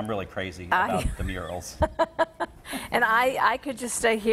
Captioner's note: laughs